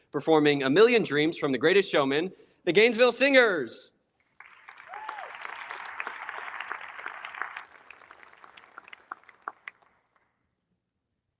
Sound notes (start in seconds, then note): 4.3 audience applauding; 4.5 audience cheers